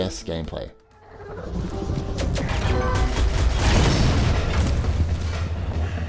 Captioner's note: gunshots and explosions